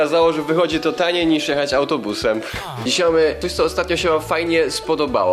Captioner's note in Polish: haa